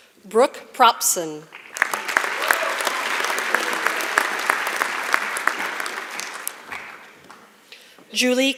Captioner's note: applause